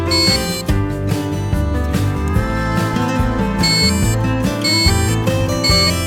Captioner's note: buzzer sound